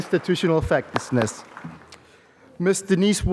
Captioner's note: applause